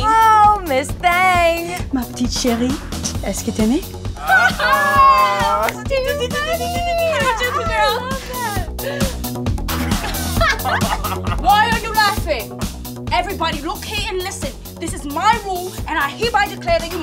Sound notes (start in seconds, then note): 9.6 and shop lady laugh; 11.0 attempted English accent; 13.2 English accent